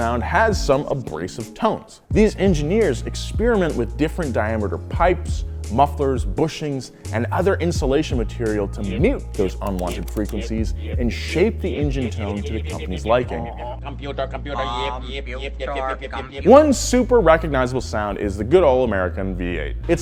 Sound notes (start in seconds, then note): 14.1 voiceover